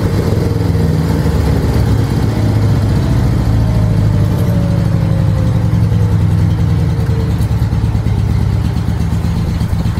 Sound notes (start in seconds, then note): 4.0 engine slowly returns to idle